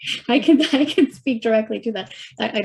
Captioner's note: chuckling and cross-talk